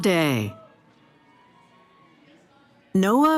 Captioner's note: cheering